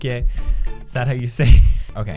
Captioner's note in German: lacht